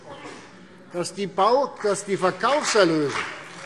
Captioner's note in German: Beifall CDU und BÜNDNIS 90/DIE GRÜNEN